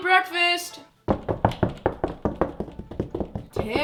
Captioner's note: knocking continues